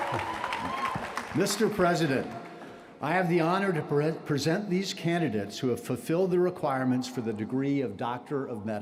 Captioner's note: cheers and applause